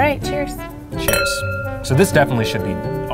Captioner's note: glasses clinking